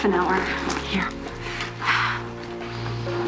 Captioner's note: sighs